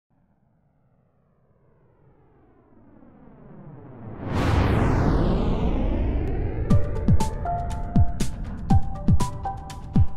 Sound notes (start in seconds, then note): 2.8 rocket thundering; 6.7 bright spirited music